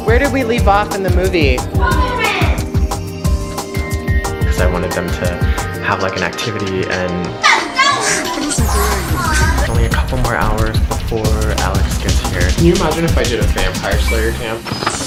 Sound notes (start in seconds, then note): 1.7 kid shouts; 7.3 kids shouting; 14.8 synthesizer music